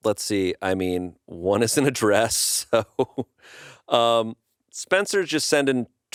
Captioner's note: laughs